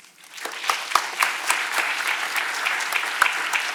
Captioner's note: audience clapping